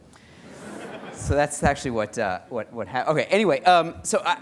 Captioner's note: laughter